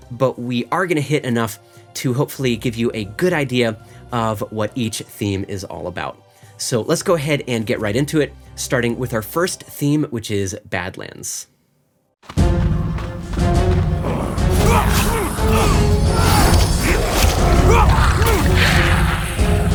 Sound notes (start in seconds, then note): 12.3 intense music; 13.8 character grunting; 16.6 monsters growling